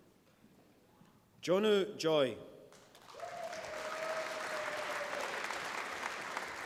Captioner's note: applause